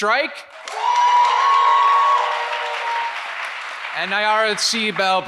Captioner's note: audience applauds and cheers